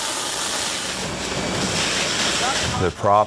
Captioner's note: hose spraying